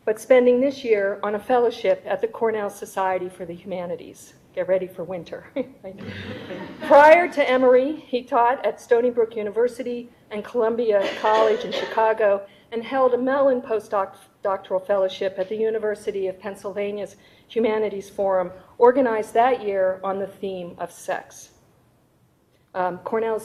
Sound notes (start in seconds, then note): 5.6 chuckles softly; 6.0 audience laughing